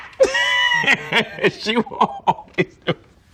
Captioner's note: laughs